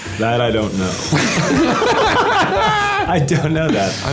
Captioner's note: Nick and John laughing